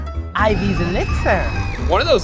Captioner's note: woman screams